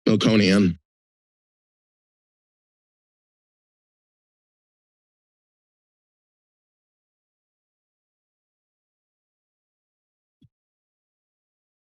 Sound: silence

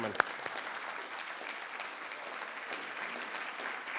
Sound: applause

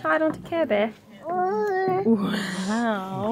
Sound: makes baby noises

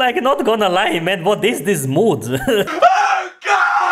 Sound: chuckles

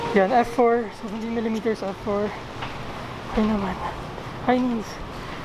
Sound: gasping for air

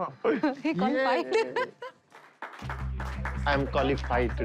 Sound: laughs

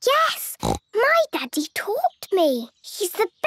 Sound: snorts

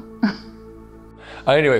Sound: chuckles

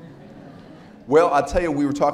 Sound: audience giggles

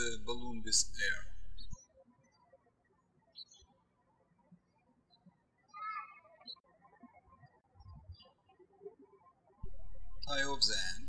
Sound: birds chirping

